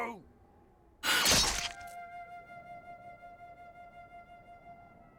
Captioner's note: axe slashes loudly; dramatic music